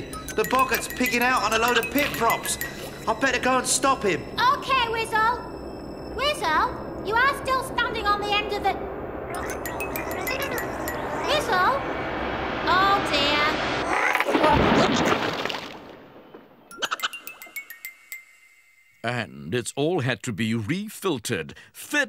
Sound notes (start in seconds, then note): 13.8 creak; 14.1 splash!